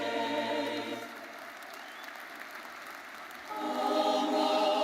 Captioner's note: audience applauding